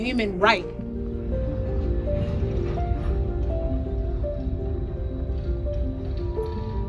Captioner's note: train sounds